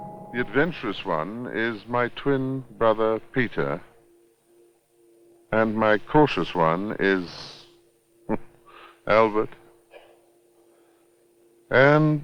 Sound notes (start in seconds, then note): 8.7 chuckles